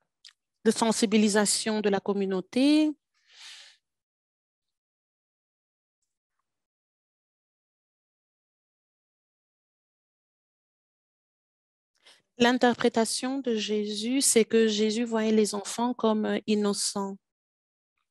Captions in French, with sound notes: de sensibilisation de la communauté. [silence] L'interprétation de Jésus, c'est que Jésus voyait les enfants comme innocents.